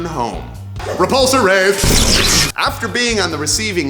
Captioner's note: explosion sound